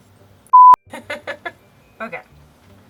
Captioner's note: laughs